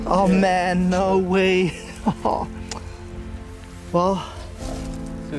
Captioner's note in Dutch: lacht